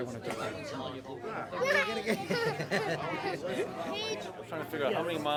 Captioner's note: all chattering